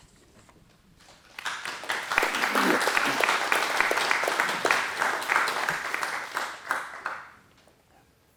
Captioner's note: applause